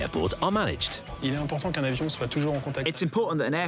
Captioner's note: interviewee speaking foreign language